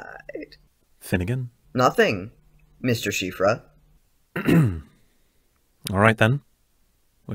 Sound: clearing his throat

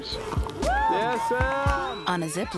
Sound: cheering

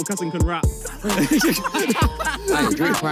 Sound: players laugh

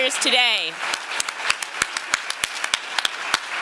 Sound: applause

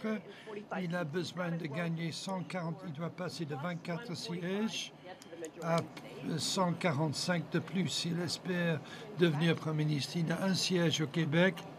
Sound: speaking French

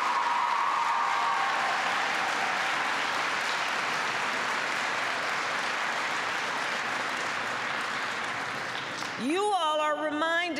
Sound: applause

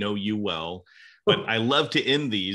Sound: conversations

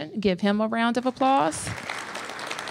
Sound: applause

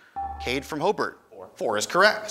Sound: ding

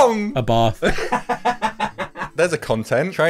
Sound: laughs

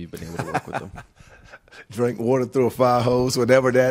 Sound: laughing

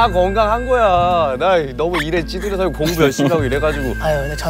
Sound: ugh!

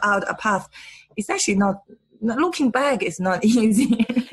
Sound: laughs

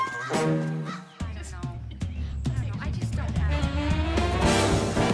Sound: indistinct chatter

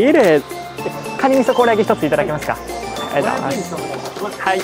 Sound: speaks japanese

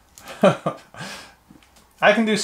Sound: laughs

